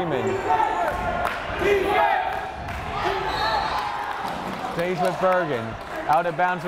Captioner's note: crowd chanting defense